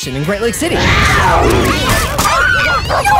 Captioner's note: screaming